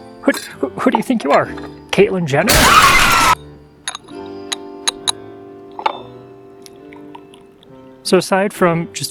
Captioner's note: car crash, glass breaking, screaming